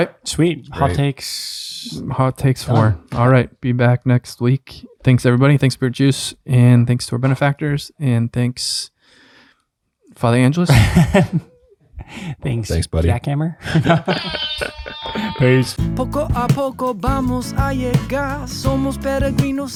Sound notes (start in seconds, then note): 14.2 air horn blares; 16.0 upbeat music; 16.8 musician singing in foreign language